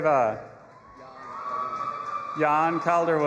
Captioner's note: audience applauding and cheering